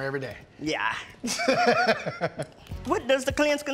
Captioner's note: laughter